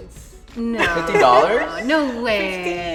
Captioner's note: laughs